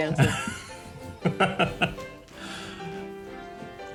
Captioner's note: laughs